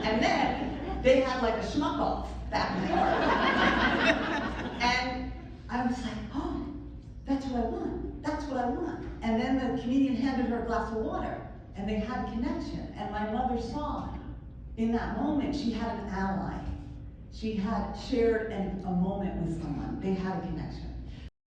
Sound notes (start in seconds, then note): 2.8 more laughter